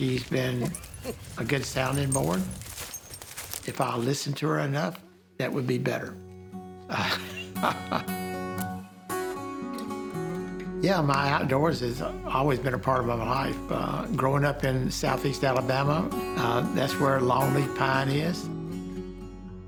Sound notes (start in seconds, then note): 3.0 cheerful twangy music; 3.0 laughing